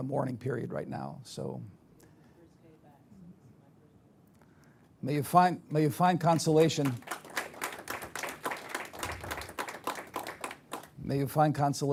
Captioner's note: applause